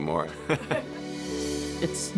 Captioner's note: laughing